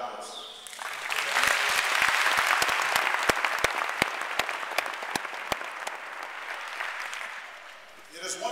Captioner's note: applause